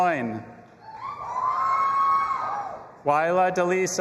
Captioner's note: audience applauding and cheering